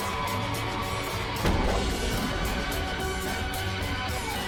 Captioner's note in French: tirs d'armes à feu